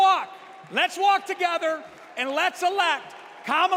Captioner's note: applause